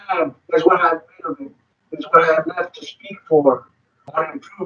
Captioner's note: speaking distorted